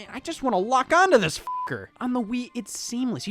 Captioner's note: beep